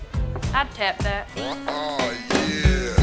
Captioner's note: sighs sadly